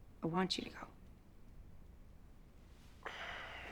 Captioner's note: sighs reluctantly